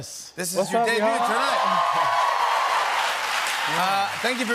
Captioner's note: cheers and applause